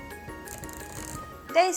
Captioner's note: happy clicky wheel